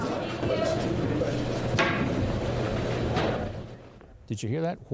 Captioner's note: people chattering